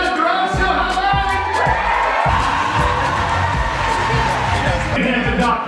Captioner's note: crowd cheers and claps